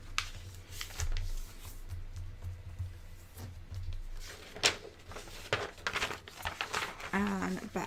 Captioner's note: paper rustling